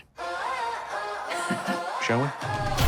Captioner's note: caretaker laughs; upbeat music